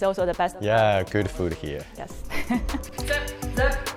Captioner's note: laughs